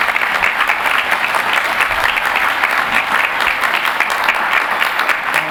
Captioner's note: applause